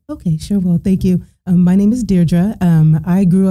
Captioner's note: none